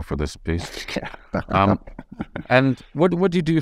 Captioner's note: laughing